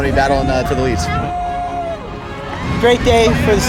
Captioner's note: crowd cheering